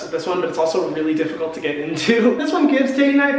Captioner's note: chuckles